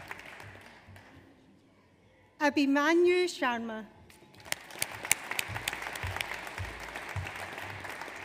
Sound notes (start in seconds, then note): 4.3 audience applauds